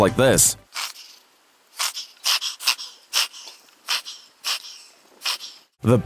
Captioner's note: difficulty breathing